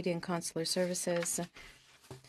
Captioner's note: speaking French